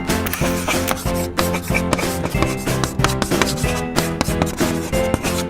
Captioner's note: chalkboard scribing